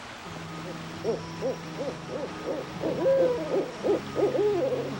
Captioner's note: owls hooting